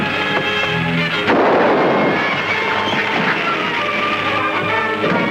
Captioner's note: door latch clicks; gunfire blasts; intense orchestral music